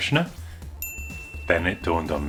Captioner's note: ding!